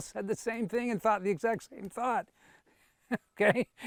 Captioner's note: laughs